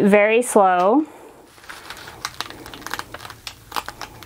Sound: paper rustling

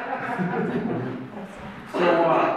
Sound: audience laughs

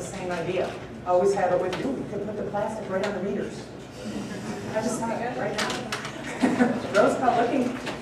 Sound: laughter

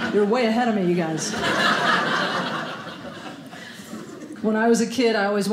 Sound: audience laughing

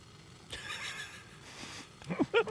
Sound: both laughing

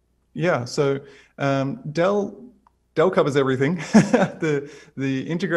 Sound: laughs

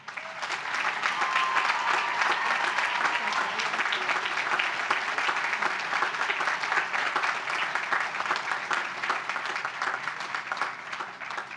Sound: applause

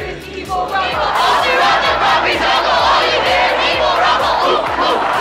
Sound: students chanting

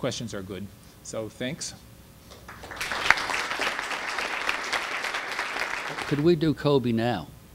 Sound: audience applause

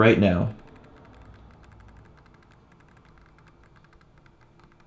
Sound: camera rumbling

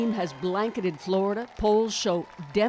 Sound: applause

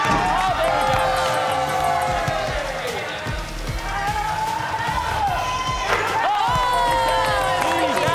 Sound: cheering

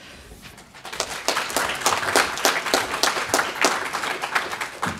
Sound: audience applauding

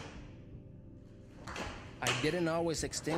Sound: clothes slapping

